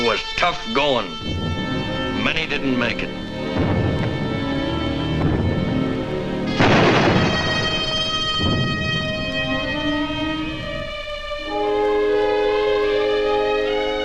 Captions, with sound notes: It was tough goin'. Many didn't make it. (somber dramatic music) (explosions booming)